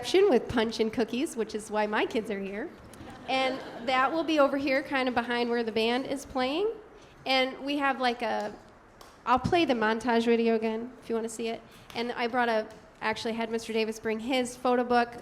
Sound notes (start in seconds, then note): 2.9 audience laughing